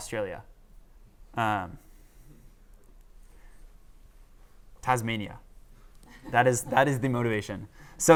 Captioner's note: laughter